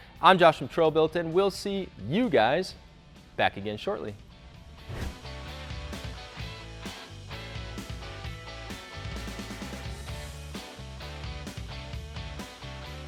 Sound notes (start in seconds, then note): 4.7 upbeat music; 4.8 whooshes